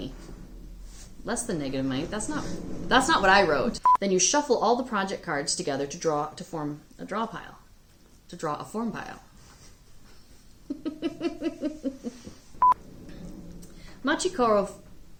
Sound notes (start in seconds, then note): 10.7 laughs